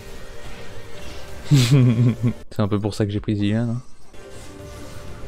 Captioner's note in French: Rire